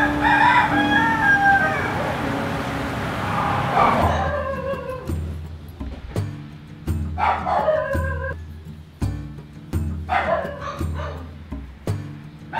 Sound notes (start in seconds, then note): 0.0 rooster crowing; 4.4 dogs barking